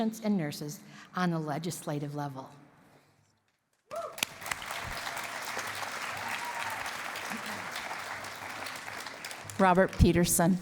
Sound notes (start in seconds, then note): 3.9 cheering and applause